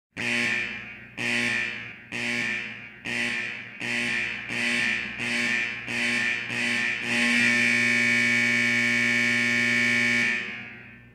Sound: buzzing

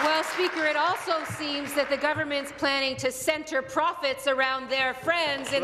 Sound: applause

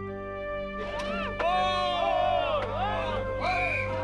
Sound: patriotic music; people shouting

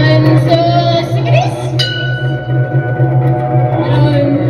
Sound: ding!

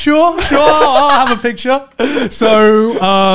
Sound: men laughing

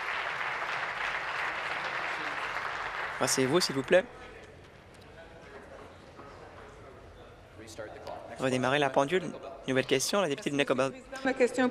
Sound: applause

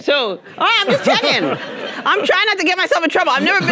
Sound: audience laughing

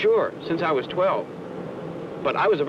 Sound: engine noise

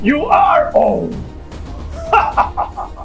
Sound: Soldier Boy gasps; Billy Butcher cackles

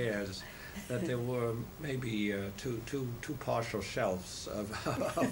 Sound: laughter

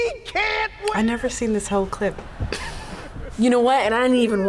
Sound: laughs

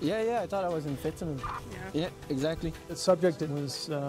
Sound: voiceover

